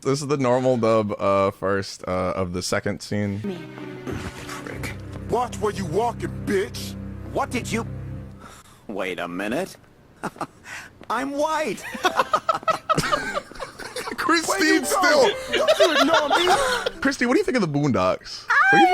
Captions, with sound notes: This is the normal dub first of the second scene. - Prick. - Watch where you walking, bitch. - What did you... Wait a minute, I'm white (laughing). (everyone laughing) - Kristine's still... Kristine, what do you think of "The Boondocks"?